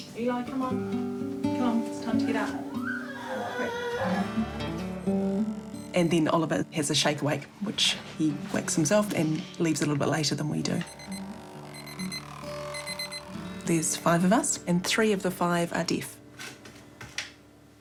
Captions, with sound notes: Eli, come on. Come on. It's time to get up. Come on, quick. (CHILD SQUEALS, FUSSES) And then Oliver has a shake awake, which he wakes himself and leaves a little bit later than we do. (ALARM BEEPS, VIBRATES) There's five of us, and three of the five are deaf.